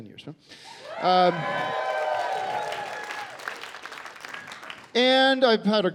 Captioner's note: cheering and applause